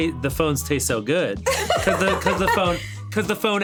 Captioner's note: laughing